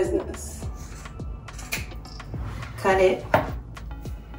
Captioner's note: scissors snipping